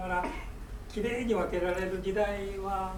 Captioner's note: speaking in foreign language; coughing